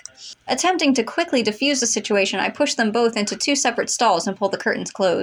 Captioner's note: none